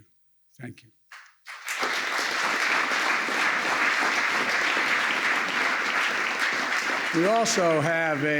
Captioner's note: applause